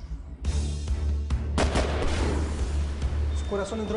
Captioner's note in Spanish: Disparos